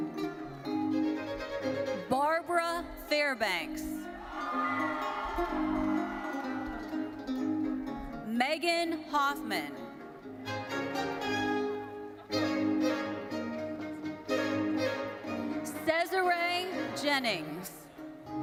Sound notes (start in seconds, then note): 4.2 audience cheering; 10.3 bright thoughtful music continues